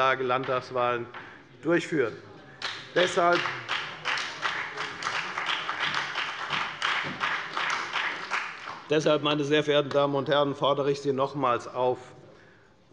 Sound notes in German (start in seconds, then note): 2.6 Beifall bei der FDP und bei Abgeordneten der SPD und der LINKEN